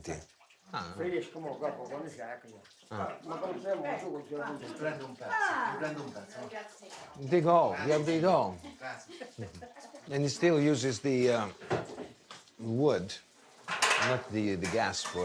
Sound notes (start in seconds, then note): 1.4 speaking foreign language